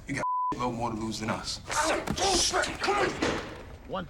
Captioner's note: yelling; door opens